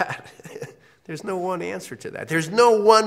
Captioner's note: laugh